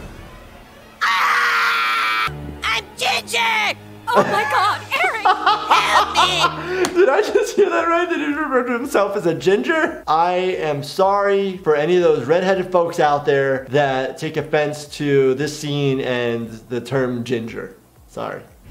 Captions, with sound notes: (Cartman screams) - I'm ginger! - Oh my God, Eric. - Help me. - Did I just hear that right? Did he refer to himself as a ginger? I am sorry for any of those redheaded folks out there that take offense to this scene and the term ginger, sorry.